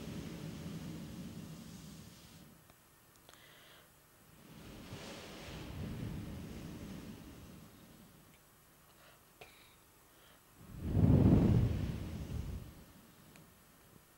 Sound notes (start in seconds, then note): 3.0 Shri Mataji blows into microphone